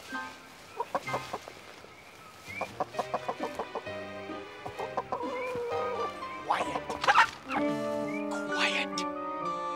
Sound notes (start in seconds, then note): 0.7 chicken clucking; 6.4 squawk